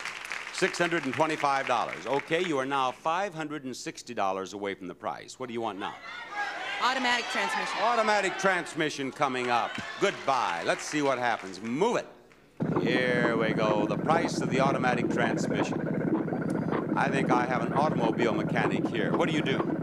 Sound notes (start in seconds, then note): 6.0 audience shout indistinctly